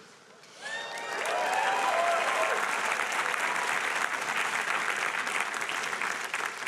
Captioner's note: audience applauding and cheering